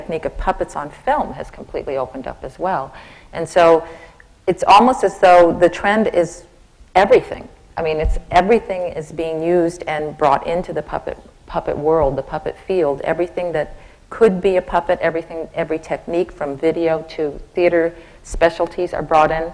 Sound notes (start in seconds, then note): none